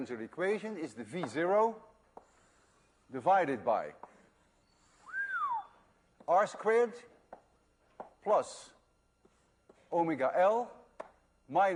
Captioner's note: whistles